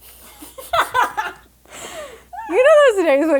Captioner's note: laughing